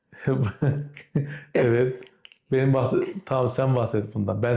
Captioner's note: laughter; grumbles